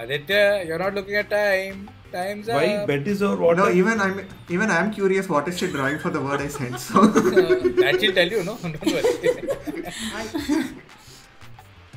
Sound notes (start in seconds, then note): 7.4 laughs